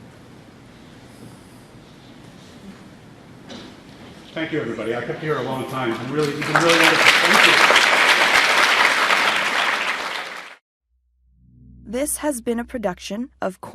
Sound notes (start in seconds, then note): 7.8 applause